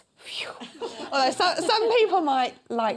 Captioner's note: laughter